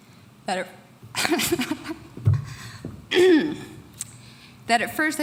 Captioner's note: laughing; clearing throat